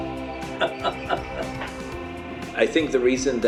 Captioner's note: they laugh